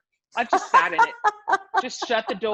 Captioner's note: laughs